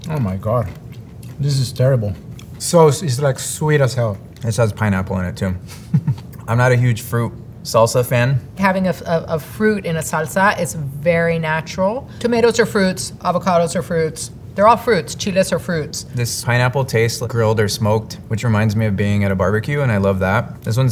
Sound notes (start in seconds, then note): 0.0 mouth chewing; 5.6 chuckles